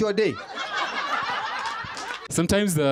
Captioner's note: laughter